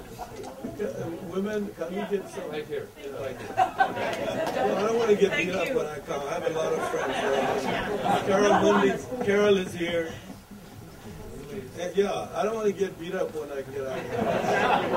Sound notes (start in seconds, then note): 3.3 audience laughter; 13.9 audience laughter